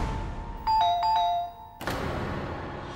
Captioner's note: doorbell rings